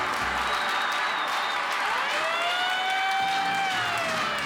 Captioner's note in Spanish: Aplausos